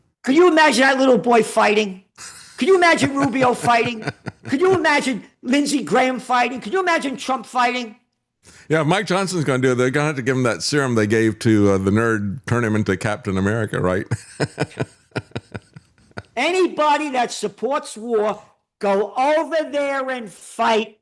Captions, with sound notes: Can you imagine that little boy fighting? Can you imagine Rubio fighting? Could you imagine Lindsey Graham fighting? Could you imagine Trump fighting? Yeah, Mike Johnson's gonna do it. They're gonna have to give him that serum they gave to the nerd tournament to Captain America, right? (Laughing) Anybody that supports war, go over there and fight